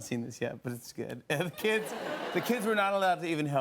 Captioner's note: laughter